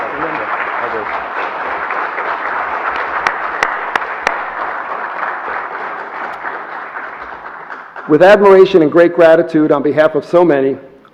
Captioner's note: applause